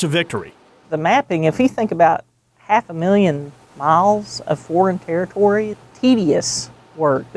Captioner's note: pat